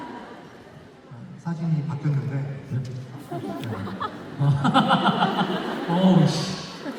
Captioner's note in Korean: 웃음